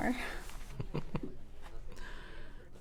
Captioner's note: chuckling